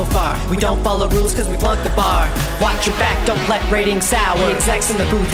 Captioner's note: gavel sounds